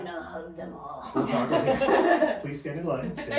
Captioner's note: laughing